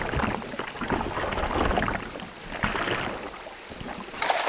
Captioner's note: water splashing